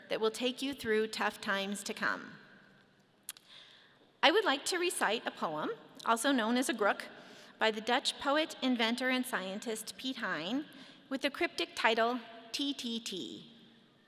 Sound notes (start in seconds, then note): none